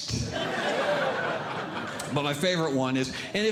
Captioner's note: audience Laughing